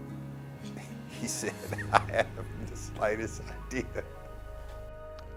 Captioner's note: laughs